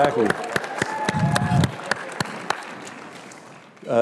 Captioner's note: applause